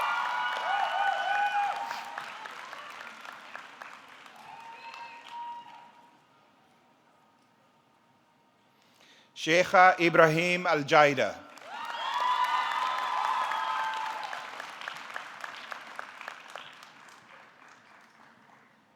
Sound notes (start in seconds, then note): 11.3 audience clapping; 11.6 audience cheering